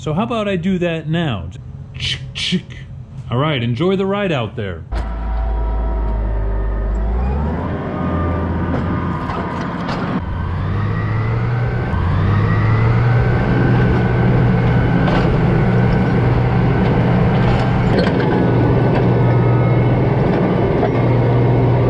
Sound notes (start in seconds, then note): 9.2 tractor sound